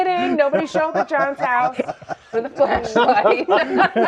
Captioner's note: laughing